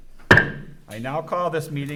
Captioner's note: gavel bangs